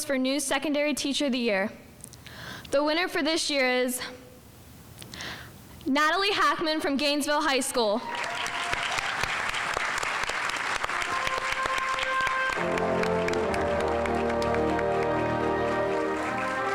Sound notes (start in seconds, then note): 8.0 audience applauding; 11.5 instrumental music